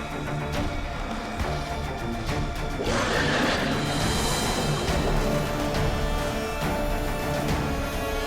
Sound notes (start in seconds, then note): 2.8 screech